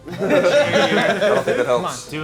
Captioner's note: movers laughing